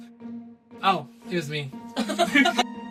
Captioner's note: laughter